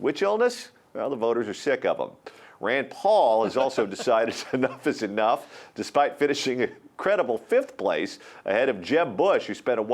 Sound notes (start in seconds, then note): 3.2 laughs